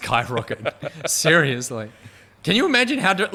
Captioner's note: chuckling